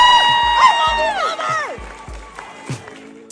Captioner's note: crowd cheering and clapping x3